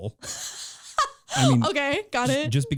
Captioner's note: laughing